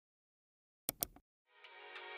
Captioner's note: keyboard typing; mouse click